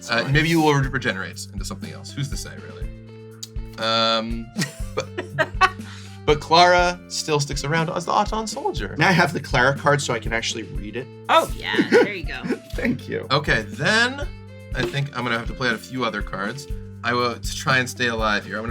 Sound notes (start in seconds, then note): 4.6 laughs; 11.4 laughs; 11.4 still laughing